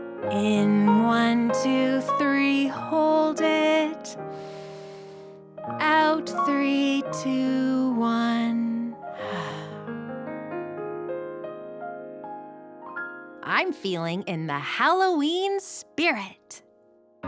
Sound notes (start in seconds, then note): 9.0 charming piano music; 9.2 exhales